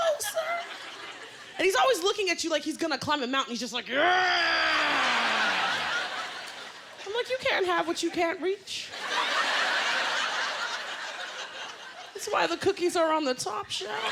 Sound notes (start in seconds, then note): 5.0 laughter; 8.9 laughter; 13.8 laughter